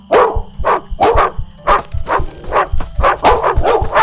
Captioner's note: running sounds. dog barking and running